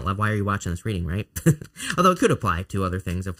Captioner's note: laughs